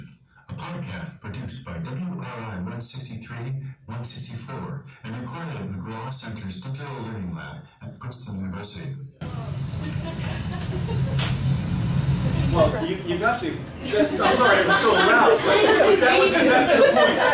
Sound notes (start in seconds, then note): 9.8 laughter